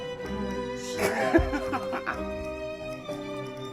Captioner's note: Tom laughing